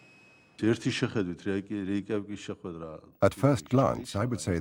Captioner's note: speaking Russian